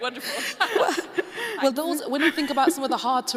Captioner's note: laughing